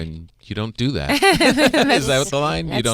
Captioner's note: Beth and Fortune laughing